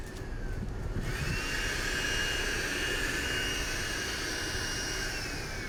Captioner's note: power tool buzzing